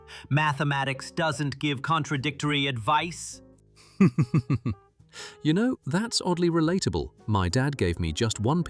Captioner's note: laughing